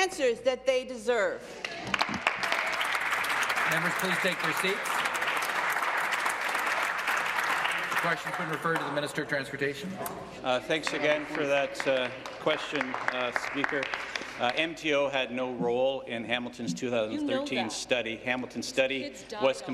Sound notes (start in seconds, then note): 5.2 applause